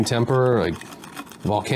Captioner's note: rock Burnishing Sound